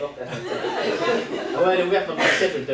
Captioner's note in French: rires public